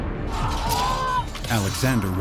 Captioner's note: screams